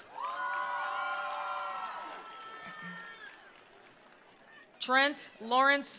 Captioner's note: attendees cheering; attendees applauding